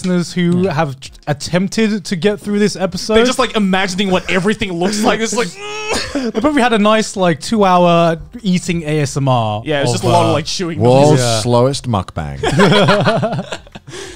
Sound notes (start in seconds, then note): 5.8 grunting; 12.5 laughing